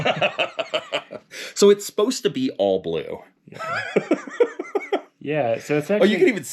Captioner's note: both laughing; laughs